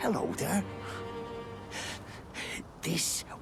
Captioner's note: gathers breath